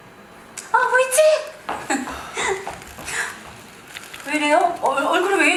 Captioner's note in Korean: 웃음